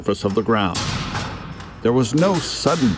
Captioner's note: metal clanging